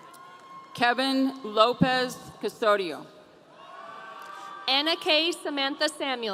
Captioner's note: audience cheering